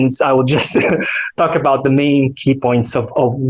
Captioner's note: chuckles